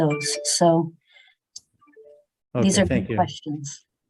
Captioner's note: phone chiming